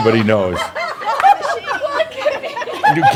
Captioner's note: more laughter